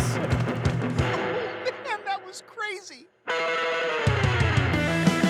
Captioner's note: laughs; energetic music continues